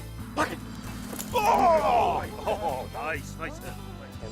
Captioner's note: yelling